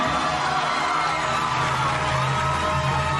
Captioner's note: wild cheers, thunderous applause